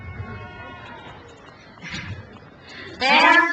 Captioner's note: crowd cheers